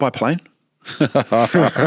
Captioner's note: both laughing